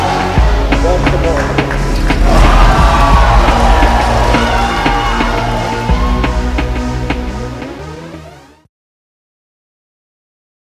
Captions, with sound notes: - Watch the ball. - [Crowd] Oh! (intense music)